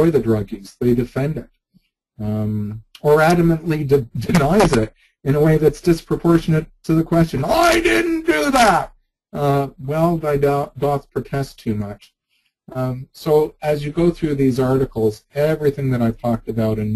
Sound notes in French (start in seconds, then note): 4.3 rire